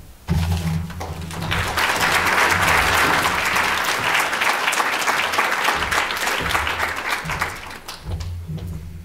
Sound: audience applause

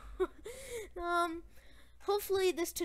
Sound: chuckling

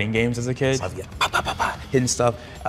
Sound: punching noise imitation

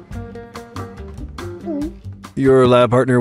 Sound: gulp

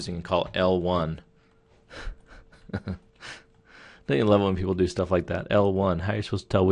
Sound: chuckles

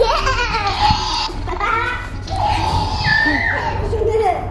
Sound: dinosaur roars

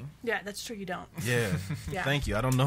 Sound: laughs

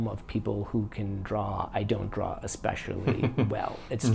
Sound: chuckles

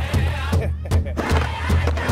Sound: laughing; indigenous people singing and drumming

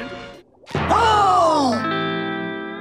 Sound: gasping

